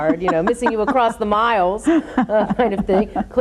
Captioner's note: laughs